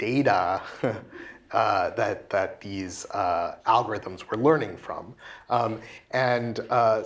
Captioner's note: laugh